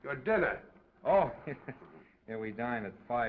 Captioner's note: chuckles